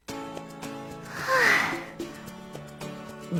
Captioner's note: sigh